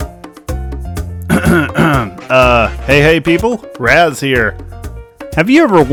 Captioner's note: cough